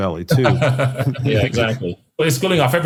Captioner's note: laugh